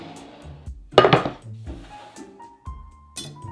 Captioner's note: board sliding